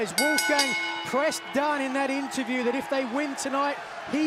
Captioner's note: bell ringing